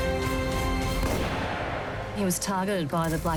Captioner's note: gunshot